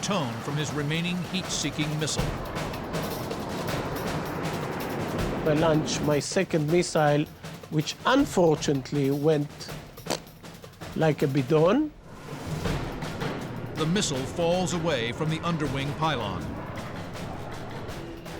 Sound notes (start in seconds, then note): 9.9 pfft